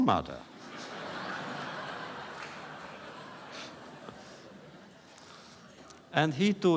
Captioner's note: laughter